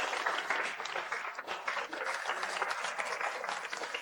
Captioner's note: applause